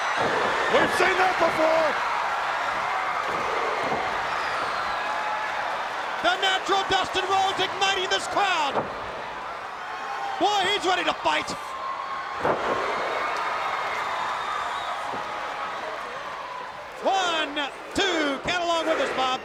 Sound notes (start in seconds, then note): 0.1 canvas thudding; 2.8 crowd cheering; 3.9 canvas thudding; 12.3 canvas thudding